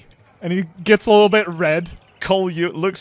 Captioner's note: laughs